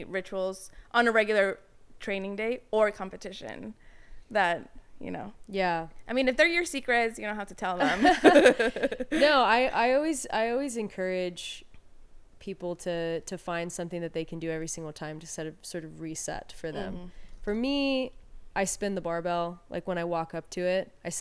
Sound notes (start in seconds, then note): 7.8 laughing